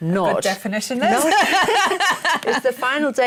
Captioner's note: laughter